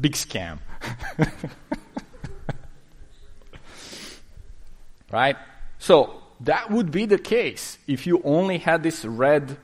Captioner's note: laughing